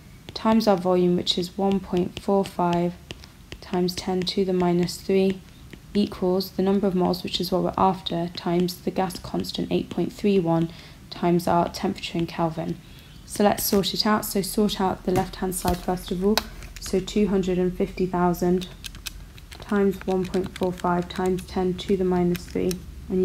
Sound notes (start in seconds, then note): 18.3 typing on calculator